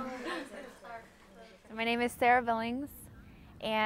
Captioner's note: laughter